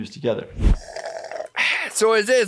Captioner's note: drinking